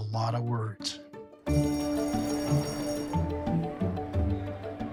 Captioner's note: bright music; bell ringing; bright music